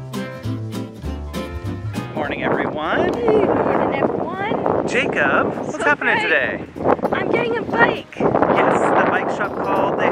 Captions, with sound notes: - Morning everyone. - Hey morning everyone. (wind whistles) - Jacob, what's happening today? - I'm getting a bike. - Yes, the bike shop called.